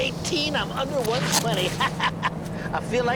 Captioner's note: laughs